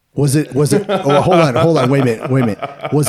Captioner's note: laughing